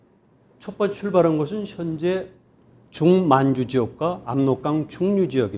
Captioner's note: speaking in Korean